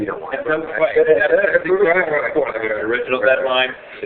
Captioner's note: laughing